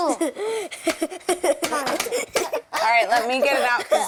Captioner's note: laughing